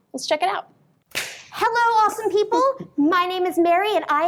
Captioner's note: presenter claps